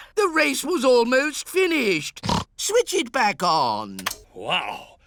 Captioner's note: gasps; snorts